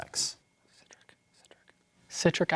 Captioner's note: whispering